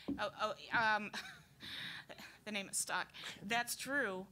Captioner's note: laughing